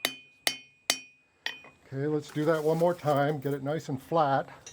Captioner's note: hammering